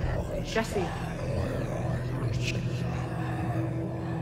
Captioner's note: growling